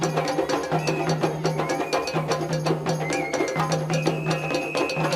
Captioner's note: people exclaiming; whistles trilling